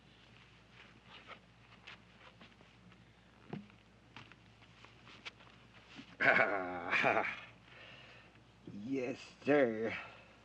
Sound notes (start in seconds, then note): 6.2 laughs